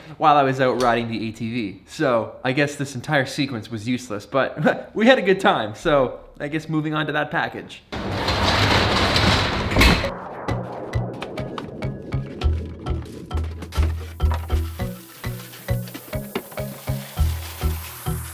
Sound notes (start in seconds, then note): 4.6 chuckles; 10.2 upbeat ambient music